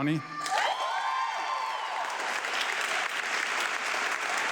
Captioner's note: audience clapping